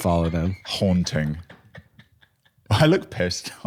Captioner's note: laughing